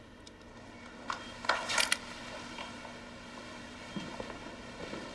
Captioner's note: machines beeping